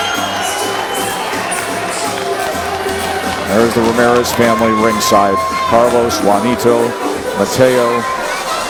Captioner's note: bell rings